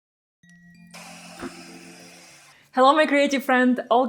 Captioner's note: blower whooshing